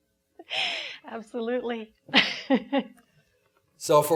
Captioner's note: laughing